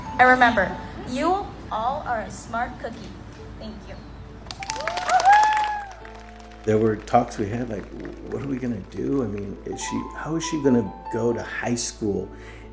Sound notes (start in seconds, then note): 4.4 audience applauding and cheering